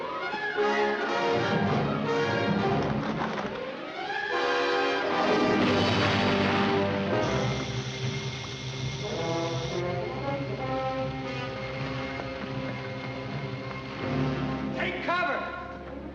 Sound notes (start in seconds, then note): 5.3 water splashes; 7.0 fuse hissing